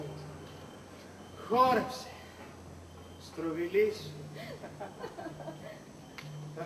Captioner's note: γέλια